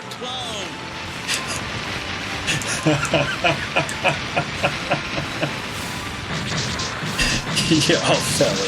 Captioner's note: laughs